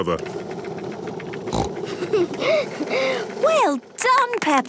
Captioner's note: giggles, snorts